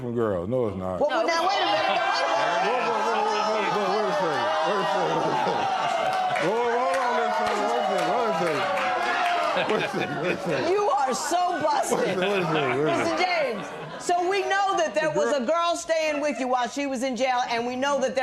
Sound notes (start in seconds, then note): 3.0 spectators yelling